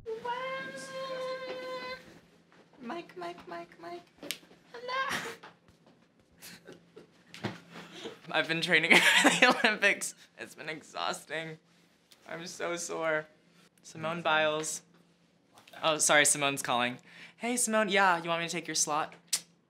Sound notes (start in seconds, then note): 4.7 making high-pitched sounds; 6.4 giggles; 9.3 laughs